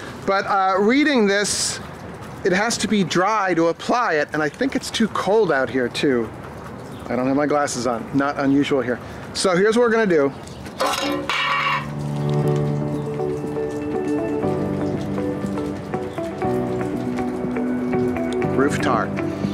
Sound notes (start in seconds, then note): 10.7 metal clattering; 11.8 uplifting music